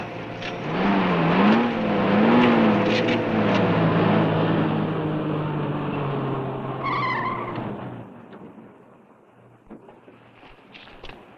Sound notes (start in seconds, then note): 7.0 tires screeching